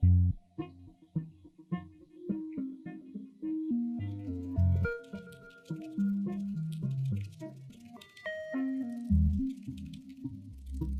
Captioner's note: insect wings flapping